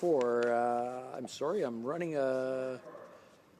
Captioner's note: speaking French